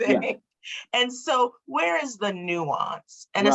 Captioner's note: laughs